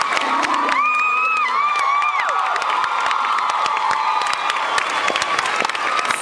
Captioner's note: cheers